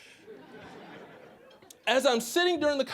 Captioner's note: audience laughing